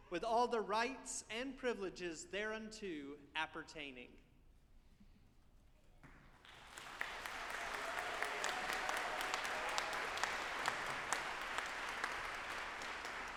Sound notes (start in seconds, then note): 6.3 audience applauding